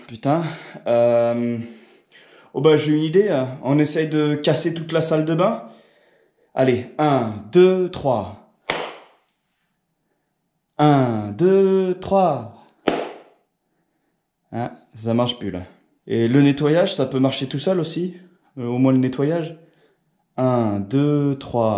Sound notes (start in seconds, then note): 8.6 clap of hands; 8.6 clap of the hands